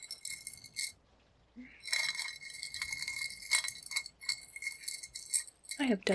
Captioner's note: necklace clicks against ceramic bowl